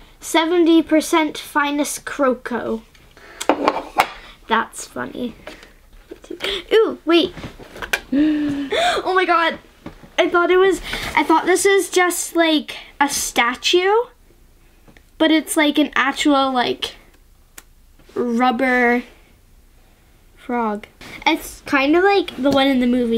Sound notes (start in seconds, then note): 8.1 gasp